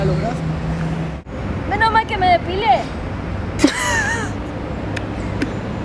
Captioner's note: laugh